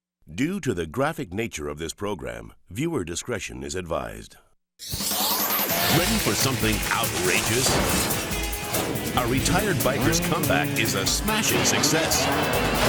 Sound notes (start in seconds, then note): 4.8 bright cheerful music; 7.1 tree slams